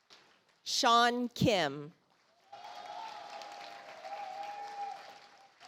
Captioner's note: audience applauds